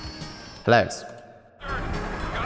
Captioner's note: voice echoes